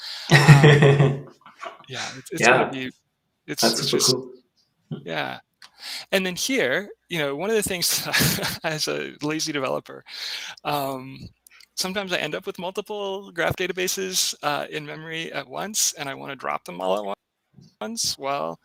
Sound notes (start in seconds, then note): 0.2 laughing; 2.2 audio breaking; 8.6 laughs